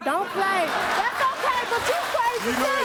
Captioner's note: audience laughs